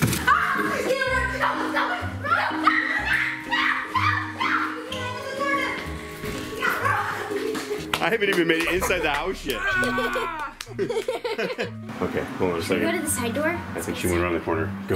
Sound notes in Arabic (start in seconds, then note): 2.6 صراخ; 10.9 يضحك